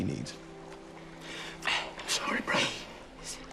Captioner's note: voice wavers